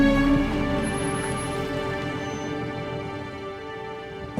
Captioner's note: brakes squeaking